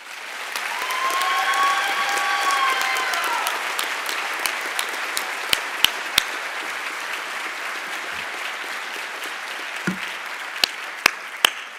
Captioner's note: applause and Cheering